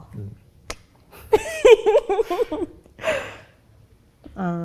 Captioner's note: laughs